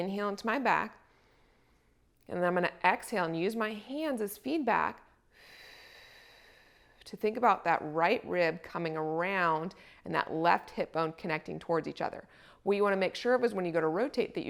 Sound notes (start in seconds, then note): 5.3 exhales